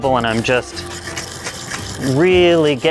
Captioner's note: scrubbing